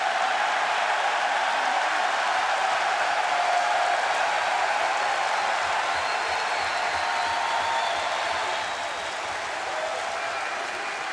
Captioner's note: crowd cheering